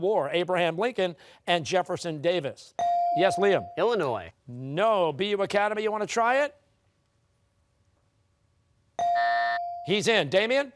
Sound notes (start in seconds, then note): 9.0 buzzer rings simultaneously